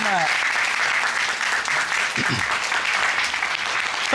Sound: applause

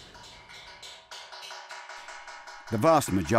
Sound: chisels clicking

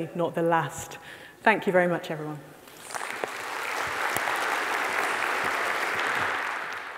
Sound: audience applauding

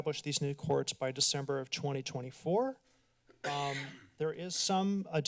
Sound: coughs

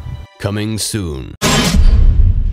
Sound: voiceover; dramatic thud

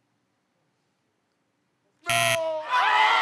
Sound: buzzer

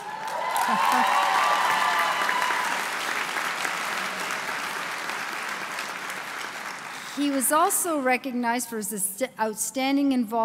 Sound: applause

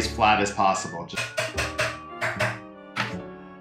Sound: tapping

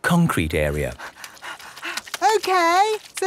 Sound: panting

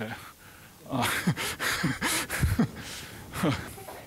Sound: chuckling

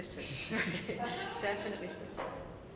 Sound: laughing

